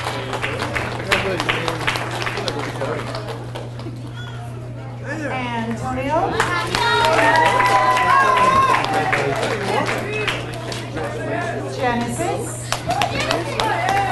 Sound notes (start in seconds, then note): 0.0 audience applauds; 2.7 people chattering; 6.3 audience cheers and applauds; 10.0 people chattering; 12.7 audience cheers and applauds